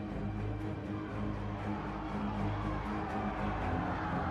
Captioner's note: crowd cheering